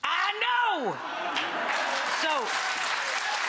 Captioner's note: audience applauds and cheers